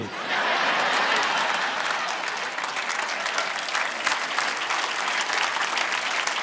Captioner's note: audience laughing; audience applauding